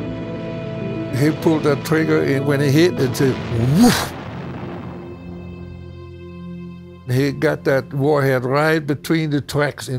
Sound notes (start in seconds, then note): 6.1 woooosh